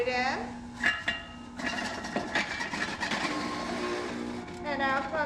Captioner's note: machine clattering